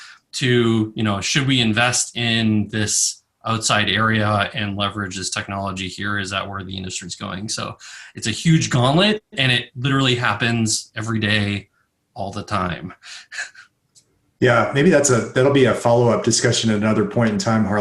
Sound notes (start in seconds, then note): 13.1 chuckles